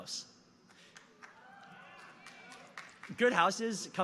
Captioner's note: audience cheering